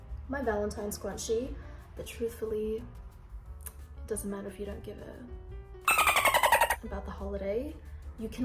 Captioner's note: dolphin noise